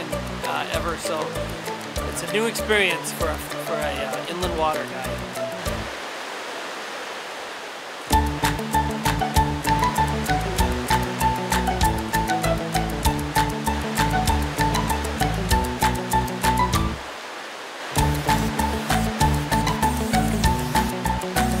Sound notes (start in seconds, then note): 4.3 river water flowing; 8.1 upbeat music; 13.7 river water flowing; 17.9 upbeat music